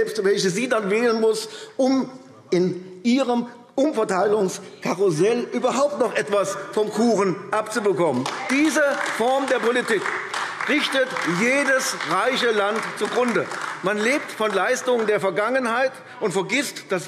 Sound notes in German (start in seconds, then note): 8.3 Beifall AfD